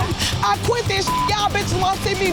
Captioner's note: man laughing; beep